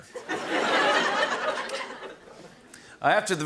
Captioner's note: laughter